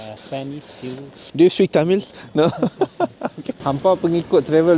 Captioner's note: laugh